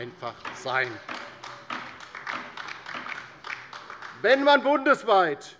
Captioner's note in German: Beifall bei der LINKEN